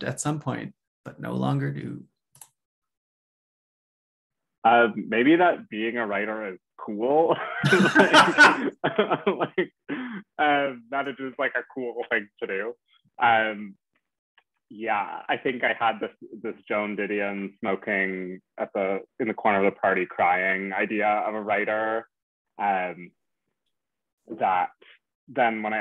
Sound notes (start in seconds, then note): 9.5 laughter